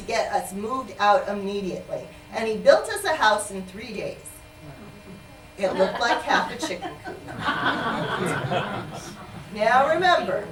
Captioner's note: laughter